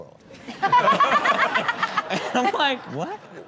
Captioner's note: all laughing